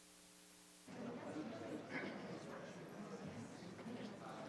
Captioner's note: people chattering